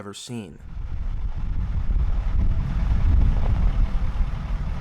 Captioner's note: truck rumbling